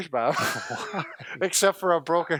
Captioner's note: laughing